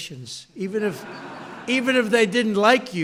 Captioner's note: laughter